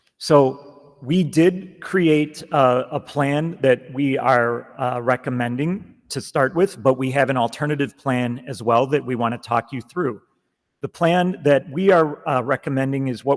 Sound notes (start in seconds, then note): none